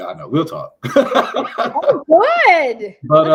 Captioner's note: laughs